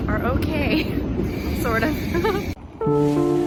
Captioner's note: laughs